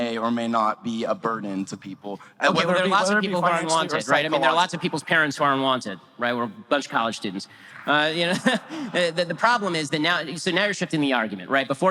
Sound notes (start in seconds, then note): 8.2 audience laughter